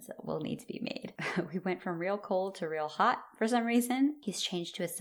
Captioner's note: chuckle